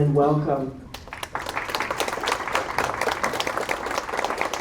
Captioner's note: applause